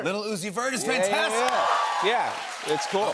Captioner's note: cheers and applause